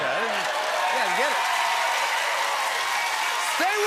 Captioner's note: cheers and applause